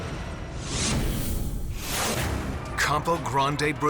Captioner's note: logo squishes